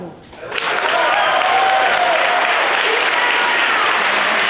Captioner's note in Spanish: Aplausos